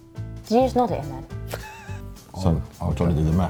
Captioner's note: laughs